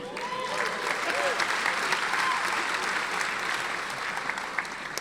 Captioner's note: audience applauding